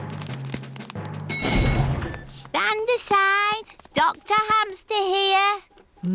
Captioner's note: elevator dings